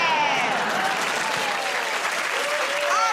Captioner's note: cheers and applause